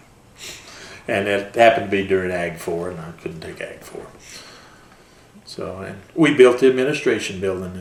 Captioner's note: laughs